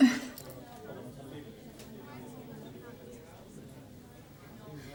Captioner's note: indistinct student chatter